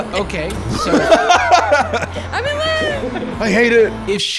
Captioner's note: laughs